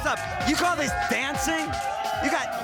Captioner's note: crowd cheering